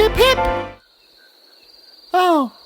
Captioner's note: silence